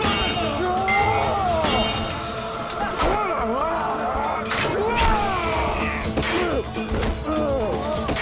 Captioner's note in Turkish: Müzik - Aksiyon; Bağırma sesleri